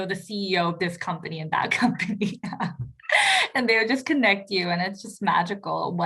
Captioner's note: laugh